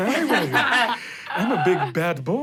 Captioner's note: everyone laughs